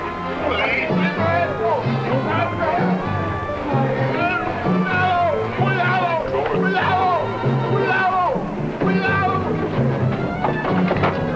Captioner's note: speaking spanish